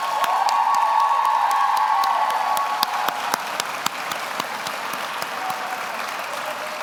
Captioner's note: audience cheers; everyone applauds